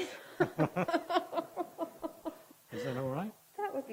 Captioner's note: laughing